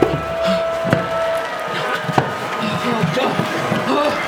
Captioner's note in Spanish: Jonathan jadea